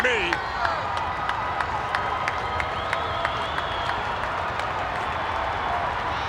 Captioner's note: crowd chattering; onlooker clapping